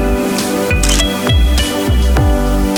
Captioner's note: photo Click